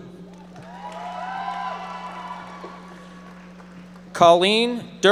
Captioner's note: audience members applauding